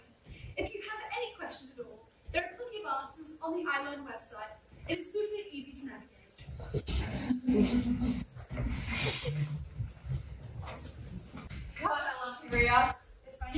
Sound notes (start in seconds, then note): 6.7 audience laughter